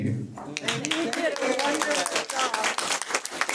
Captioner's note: audience applauds